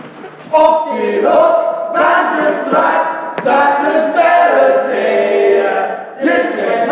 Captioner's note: voices offstage